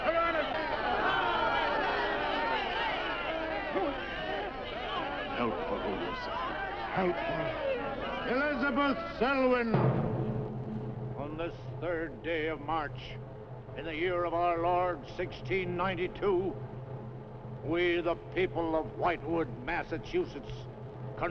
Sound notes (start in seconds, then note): 0.7 crowd shouting; 10.1 slow dramatic music